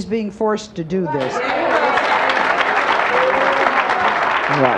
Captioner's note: audience applauds